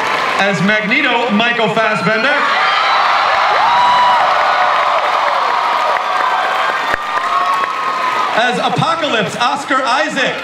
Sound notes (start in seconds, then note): 1.4 audience cheers